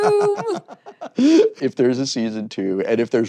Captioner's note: laughing